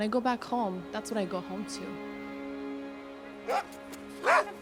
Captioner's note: slow music; dogs barking